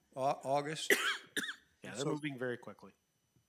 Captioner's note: trustee coughing